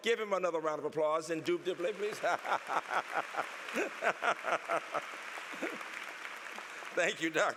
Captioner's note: applause; laughter